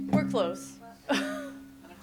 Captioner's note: chuckles